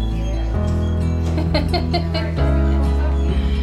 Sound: laughter

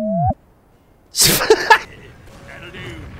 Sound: comical tooting; laughing

